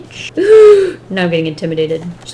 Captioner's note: gasps